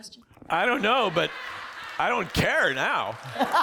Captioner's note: laughter